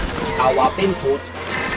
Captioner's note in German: Roboterstimme